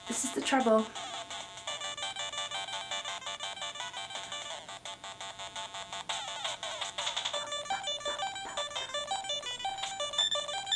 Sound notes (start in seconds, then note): 6.0 beeps along in time to beepy music